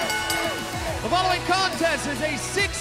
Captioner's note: fans chanting; bell ringing